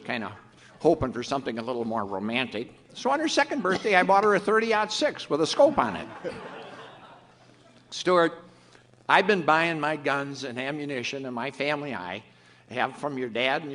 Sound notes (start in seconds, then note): 5.4 audience laughs